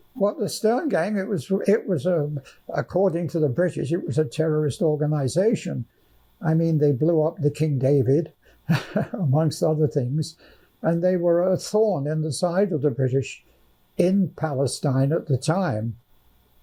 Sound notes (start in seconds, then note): 8.7 laughing